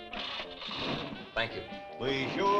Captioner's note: engine rumbling